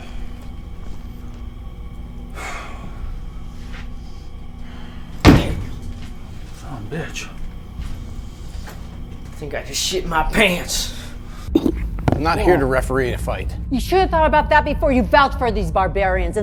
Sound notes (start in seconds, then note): 1.9 Tom whispers; 5.1 Tom stomping foot